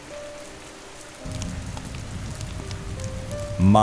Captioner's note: soft piano music; fire crackling